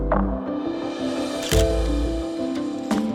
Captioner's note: camera shutter clicks